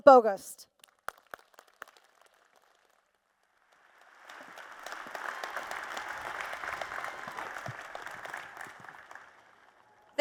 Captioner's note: applause